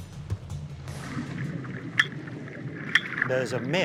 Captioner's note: water gurgling, clicking